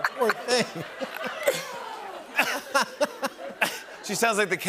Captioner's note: laughter